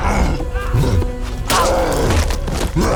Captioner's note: soldier groans